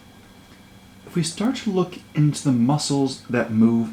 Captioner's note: voiceover